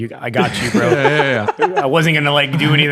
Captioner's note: laughing